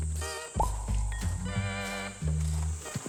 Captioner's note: nom nom